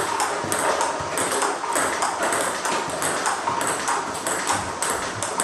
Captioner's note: ball ping pong hitting continues